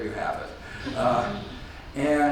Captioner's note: audience laughs